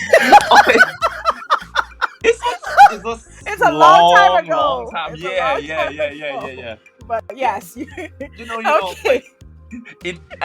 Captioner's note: both laugh